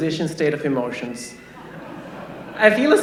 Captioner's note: laughter